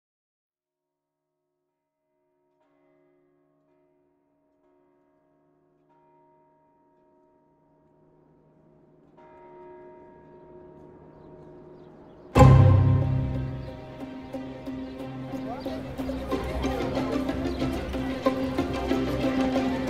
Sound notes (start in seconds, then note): 3.1 church bell chiming; 12.3 lively music; 16.0 people chattering